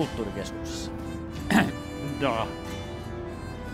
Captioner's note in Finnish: selvittää kurkkuaan; venäjäksi